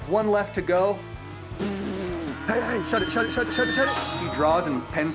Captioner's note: blowing